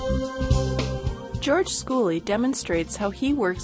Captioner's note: voiceover